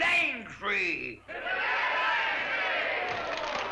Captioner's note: crowd cheers; chatter & applause